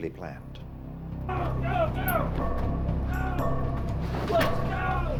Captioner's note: shouting